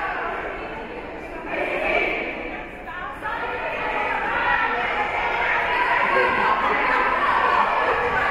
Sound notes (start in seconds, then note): 1.6 team chanting; 3.5 spectators and teams chattering